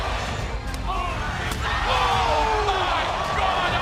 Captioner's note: crowd cheering